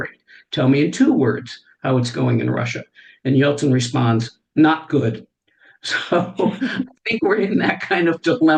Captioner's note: laughter